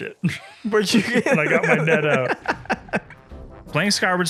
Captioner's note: laughter